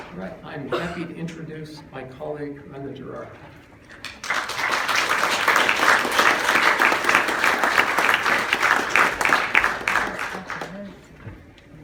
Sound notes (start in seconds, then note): 3.9 applause